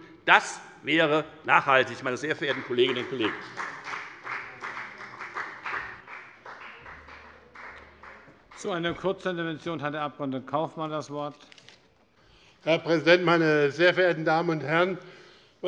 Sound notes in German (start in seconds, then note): 1.8 Beifall bei der FDP